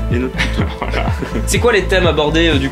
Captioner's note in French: rire